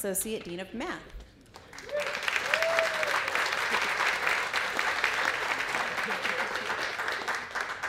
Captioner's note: applause